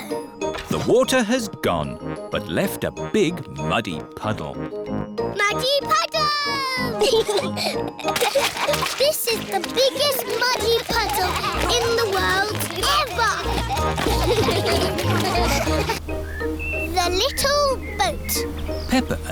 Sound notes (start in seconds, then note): 7.0 both giggling; 10.8 all giggling; 14.3 all laughing